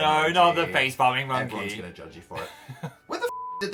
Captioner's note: Phil chuckles